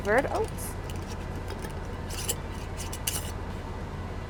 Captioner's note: lid clicking